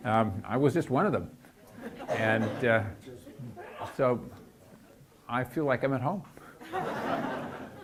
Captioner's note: audience laughs